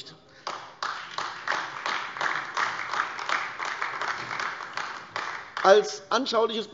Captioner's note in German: Beifall AfD